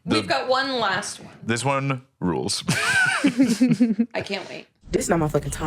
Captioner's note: laughs